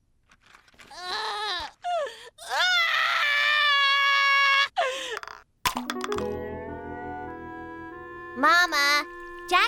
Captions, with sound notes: (crying) MAMA, JACK SPILLED